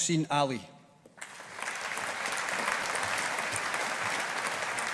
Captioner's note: audience applauding